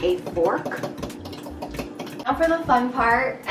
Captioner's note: fork hitting glass